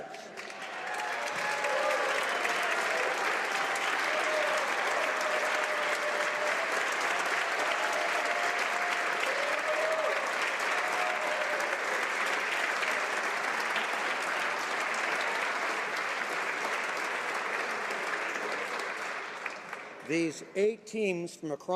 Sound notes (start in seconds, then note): 4.9 applause